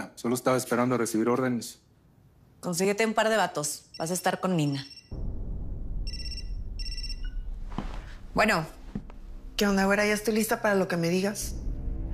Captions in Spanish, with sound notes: Solo estaba esperando recibir órdenes. - Consíguete un par de batos. Vas a estar con Nina. [Suena el celular] Bueno. - ¿Qué onda, güera? Ya estoy lista para lo que me digas.